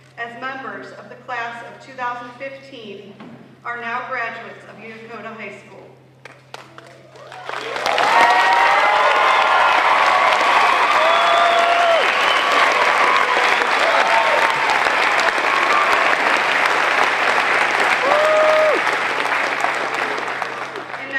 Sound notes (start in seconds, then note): 6.2 applause